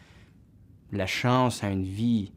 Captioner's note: speaking French